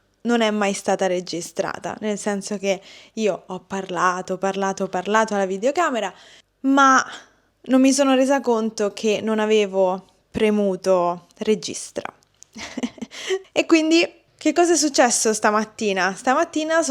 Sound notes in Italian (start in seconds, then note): 12.5 risate